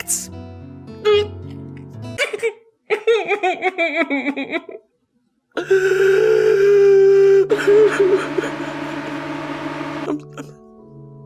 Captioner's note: sobs